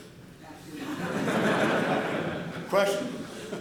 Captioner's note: laughter